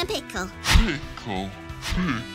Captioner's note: slower and deeper